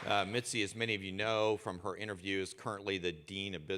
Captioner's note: applause